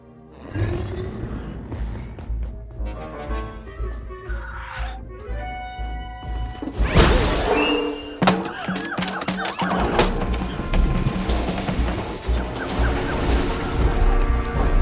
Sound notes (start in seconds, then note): 0.2 Kaufmo growls; 2.2 sneaky music plays; 7.5 monkeys hooting, shrieking